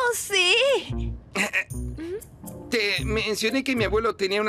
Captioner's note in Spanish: quejándose